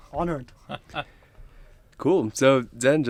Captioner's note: chuckles